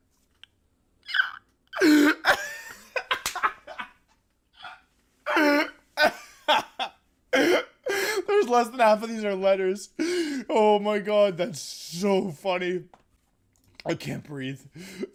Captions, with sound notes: [Laughter] there's less than half of these are letters oh my God that's so funny I can't breathe"